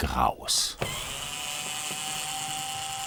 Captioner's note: drilling noises